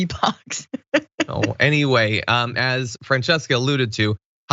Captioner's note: laugh